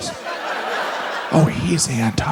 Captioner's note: audience laughs